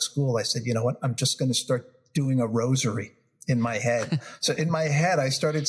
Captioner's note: laugh